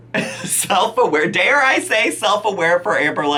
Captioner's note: laughing